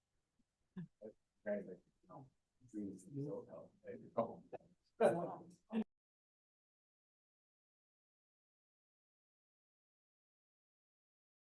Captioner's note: pause